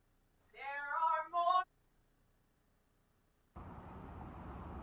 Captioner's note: protester shouting; car engines humming